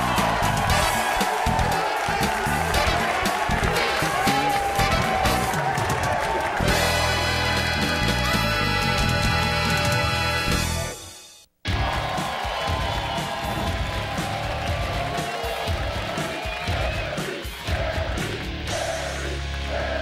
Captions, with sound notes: (edgy music) (audience cheering) Jerry, Jerry, Jerry, Jerry, Jerry, Jerry!